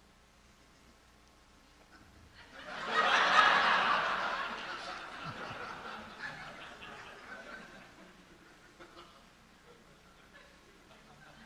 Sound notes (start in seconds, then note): 2.4 audience laughing